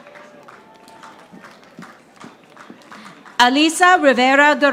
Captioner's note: audience applauding